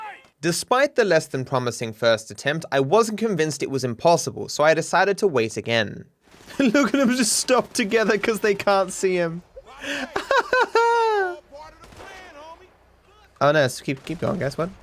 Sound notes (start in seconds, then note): 9.4 laughs